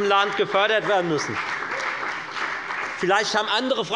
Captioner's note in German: Beifall bei der FDP, der CDU und der SPD